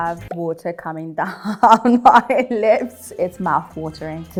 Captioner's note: laughs